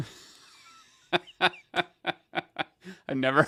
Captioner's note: laughs happily